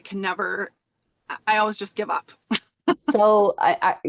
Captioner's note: laughs